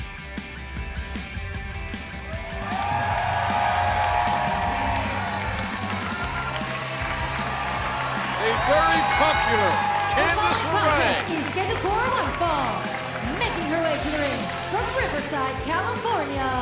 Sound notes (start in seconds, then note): 3.3 cheers and applause; 10.8 bell ringing